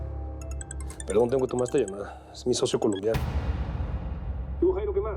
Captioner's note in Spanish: suena el celular